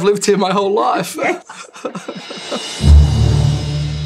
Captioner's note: laughing